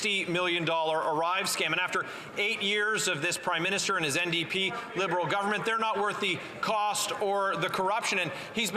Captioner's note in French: voix de l'interprète